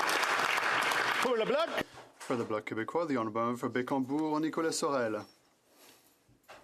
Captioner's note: some Applause